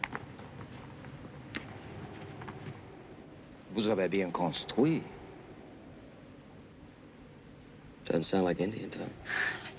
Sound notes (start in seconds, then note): 3.7 speaking french